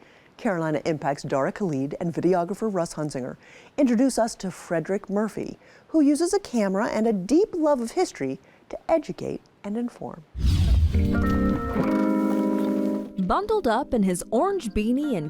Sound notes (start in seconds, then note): 10.3 air whooshes; 10.7 mellow music